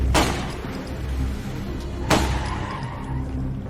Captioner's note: gunfire; tires screech